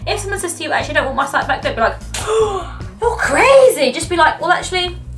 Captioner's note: gasps